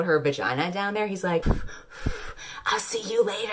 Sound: blowing noises

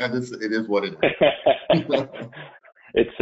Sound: both laughing

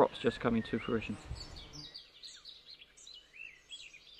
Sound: birds chirping

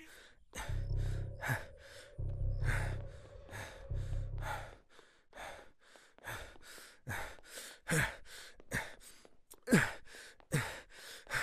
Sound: heavy breathing

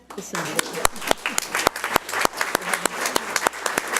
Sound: audience applauds

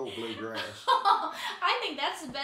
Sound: chuckling

